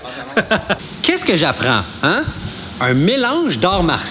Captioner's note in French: rires